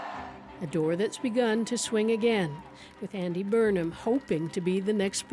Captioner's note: cheers and applause